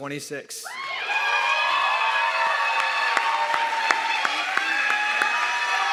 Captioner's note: audience clapping and cheering